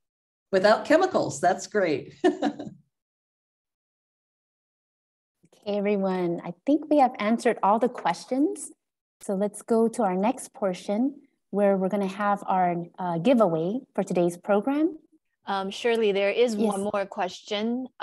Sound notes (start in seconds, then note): 2.2 laughs